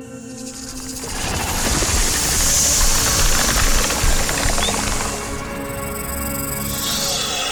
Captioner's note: Rainey breathing deeply; snake hisses; snake rattles